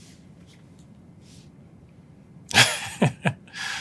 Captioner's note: laugh